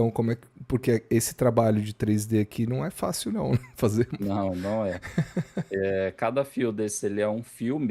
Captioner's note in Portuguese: risadas